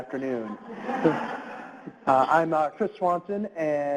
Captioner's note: audience laughs